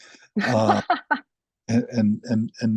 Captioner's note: laughs